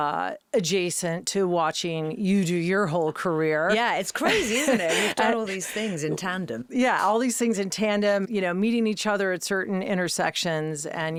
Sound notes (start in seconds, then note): 3.7 laughing